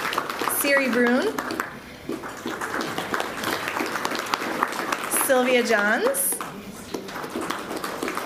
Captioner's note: applause